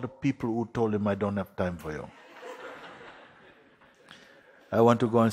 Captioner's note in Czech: Smích